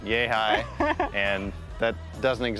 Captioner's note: laughs